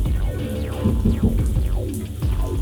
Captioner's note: knock on door